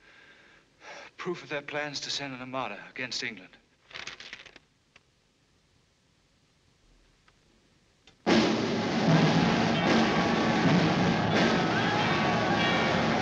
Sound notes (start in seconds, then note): 8.9 cheering and shouting